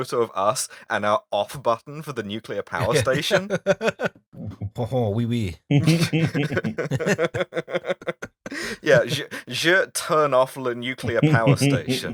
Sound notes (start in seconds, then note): 4.6 atrocious French accent; 5.7 laughter; 7.7 not even attempting accent